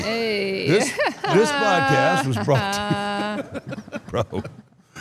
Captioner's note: laughs